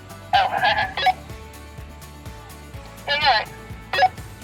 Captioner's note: chuckles